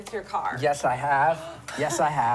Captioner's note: gasp